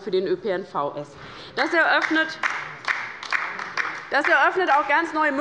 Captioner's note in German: Beifall bei der LINKEN